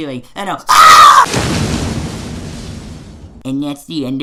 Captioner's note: explosion sounds